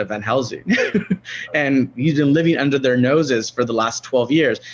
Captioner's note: laughs